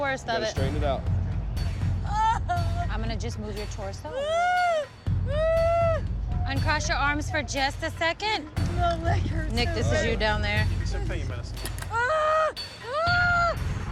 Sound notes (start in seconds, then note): 4.1 crying continues; 11.8 painful cries